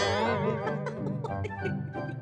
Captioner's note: titters